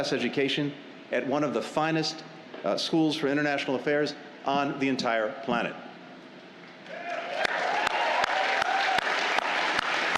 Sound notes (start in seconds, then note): 6.8 cheers